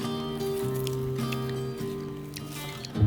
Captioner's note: chomping